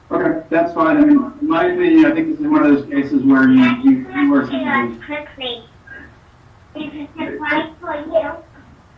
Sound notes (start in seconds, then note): 4.0 child babbling